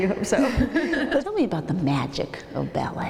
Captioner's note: laughs